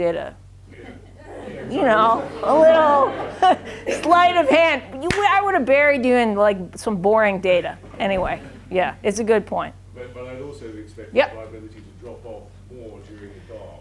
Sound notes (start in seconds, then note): 0.7 audience laughs